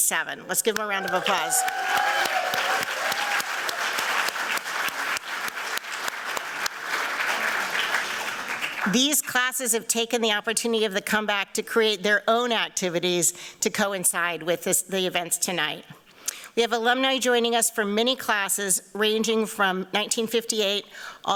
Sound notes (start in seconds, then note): 0.7 applause